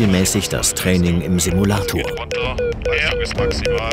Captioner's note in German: Piepsgeräusche